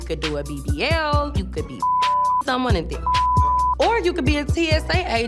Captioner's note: beep